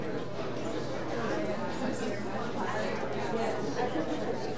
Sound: audience chattering

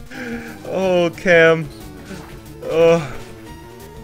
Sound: laughs

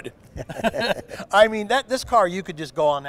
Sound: laughter

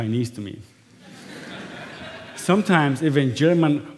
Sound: laughter

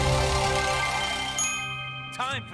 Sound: dinging

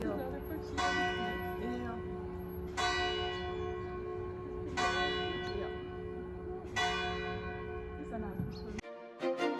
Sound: bells

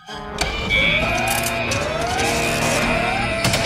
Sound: alarm blaring

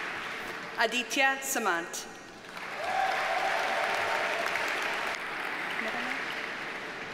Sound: audience cheers and applauds

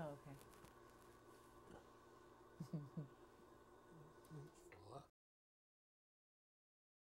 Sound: pottery wheel whirs

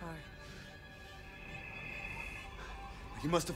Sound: crickets chirping

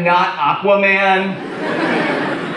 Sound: audience laughs

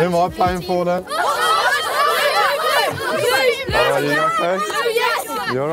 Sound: children shouting

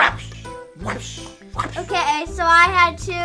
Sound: making whip like sounds

